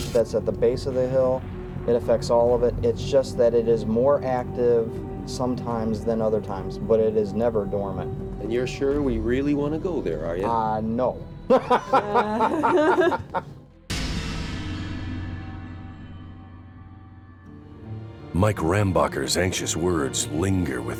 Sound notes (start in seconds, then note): 11.5 laughing; 13.4 deep scary music